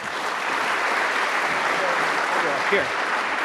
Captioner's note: audience applauding